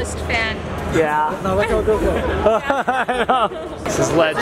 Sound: laughs

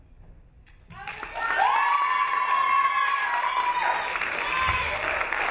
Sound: crowd cheering

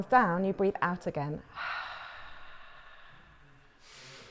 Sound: breath

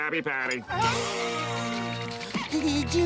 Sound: gasping

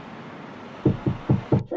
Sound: knock

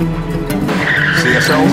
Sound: tire screeching

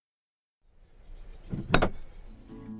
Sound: clunk

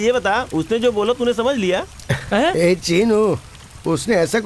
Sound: bike Approaching

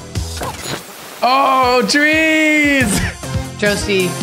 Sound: static

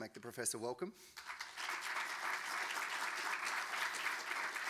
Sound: audience clapping

